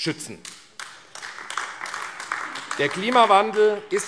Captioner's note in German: Beifall AfD